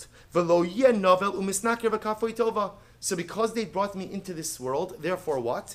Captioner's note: Hebrew